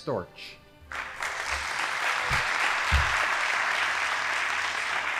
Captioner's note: audience applauding